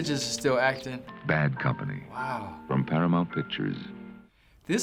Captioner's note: voice-over